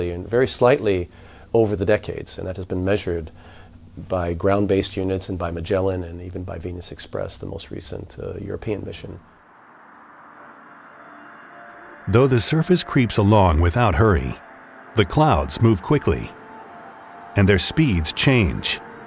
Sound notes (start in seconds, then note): 9.1 wind whooshing; 9.9 mystical music